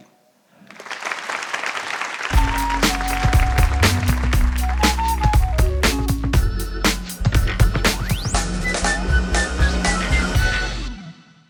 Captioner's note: applause